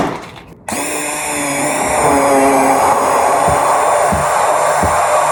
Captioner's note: blender whirring